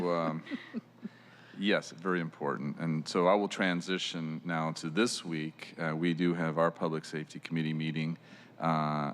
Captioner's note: laughter